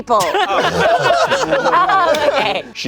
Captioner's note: everyone laughing